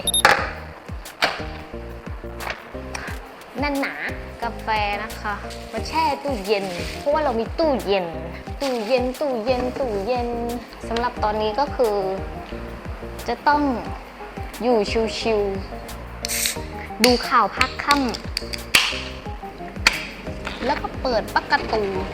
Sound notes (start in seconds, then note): 17.5 sound of a can of soda opening